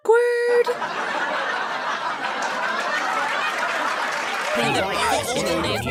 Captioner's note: laugh track, applause